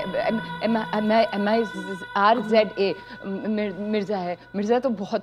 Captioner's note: Stammering